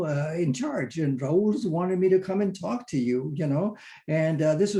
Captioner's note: in foreign language